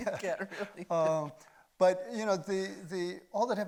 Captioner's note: chuckles